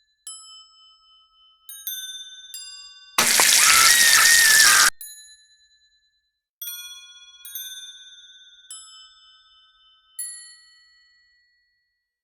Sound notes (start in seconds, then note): 3.2 screaming; 3.2 sizzling